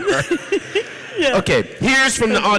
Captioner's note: audience laughs